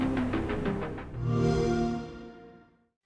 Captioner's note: xbox sound